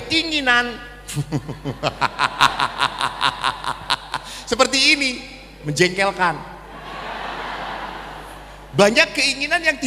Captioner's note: laughs